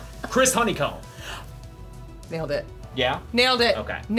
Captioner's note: gasps